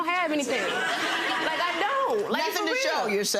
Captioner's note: audience laughing